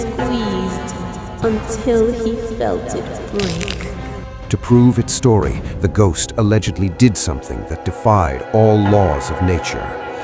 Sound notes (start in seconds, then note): 3.4 crack